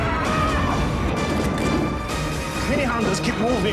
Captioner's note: explosives booming; upbeat music; gun cocking